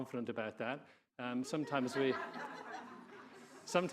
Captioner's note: audience laughing